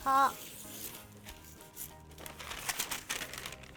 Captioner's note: parchment ripping; parchment crinkling